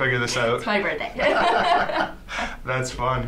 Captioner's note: laughs